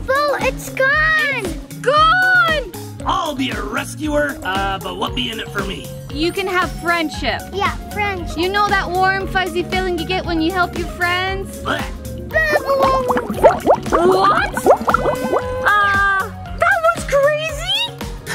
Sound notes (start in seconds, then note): 12.3 bubbles popping